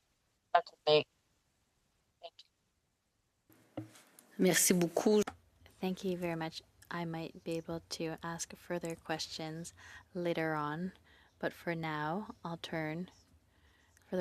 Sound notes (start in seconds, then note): 11.9 speaking French